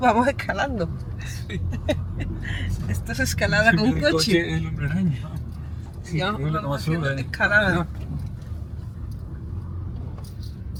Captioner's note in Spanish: risas